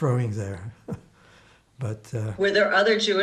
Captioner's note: laughing